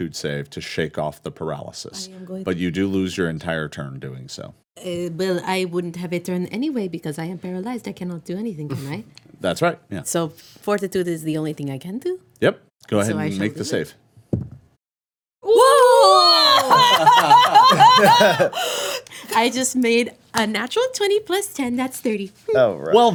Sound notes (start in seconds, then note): 16.2 laughing